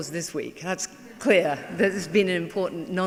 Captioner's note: laughing